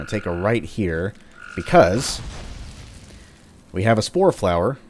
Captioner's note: fwoosh